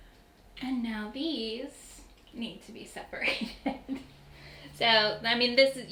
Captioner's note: laughing